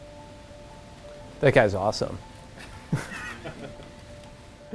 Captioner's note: laughs